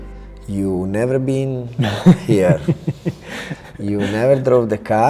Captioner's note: Henry laughs